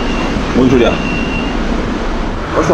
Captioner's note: beep-beep